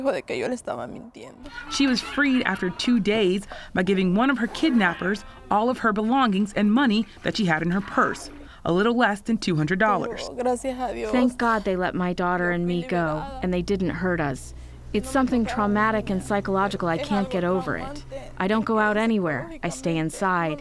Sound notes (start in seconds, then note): 10.4 through translator